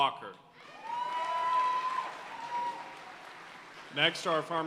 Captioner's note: audience cheering and applauding